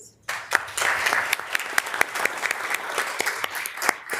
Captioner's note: members applauding